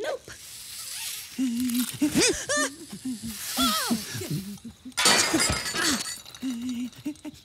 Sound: Spider mumbles nervously

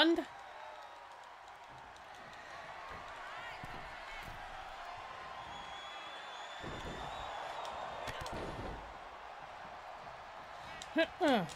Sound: applause

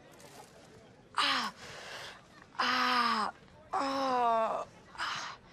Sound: groaning

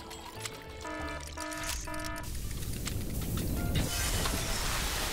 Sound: warning sirens; machines exploding

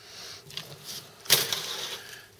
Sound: metal crash

